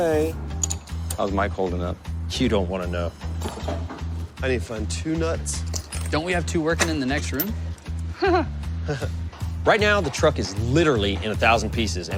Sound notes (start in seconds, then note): 8.2 laughter